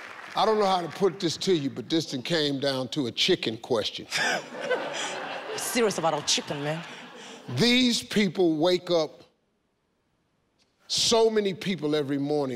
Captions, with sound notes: - I don't know how to put this to you, but this thing came down to a chicken question. (laughing) - We're serious about our chicken, man. - These people wake up so many people every morning,